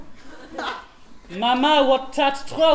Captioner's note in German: Französischer Akzent